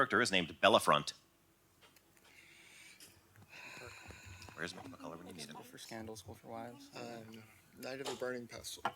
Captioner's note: sighs